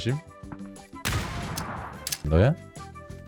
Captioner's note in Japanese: どかん